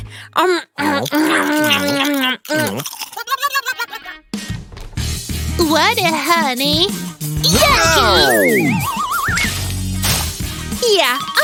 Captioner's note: sounds of eating, ill-mannered; sounds of eating, ill-mannered